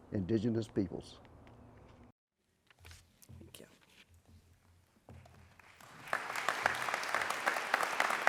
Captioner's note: applause